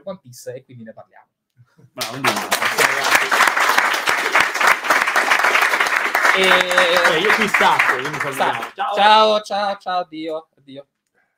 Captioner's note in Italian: Applauso